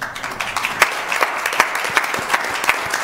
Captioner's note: applause